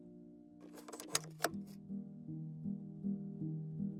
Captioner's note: slide clunking